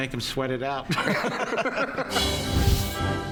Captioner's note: laughs